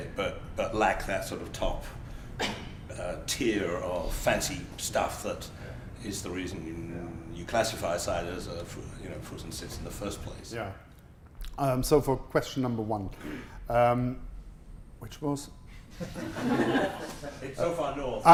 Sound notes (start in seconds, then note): 15.9 laughter